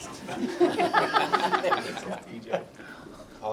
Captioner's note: laughter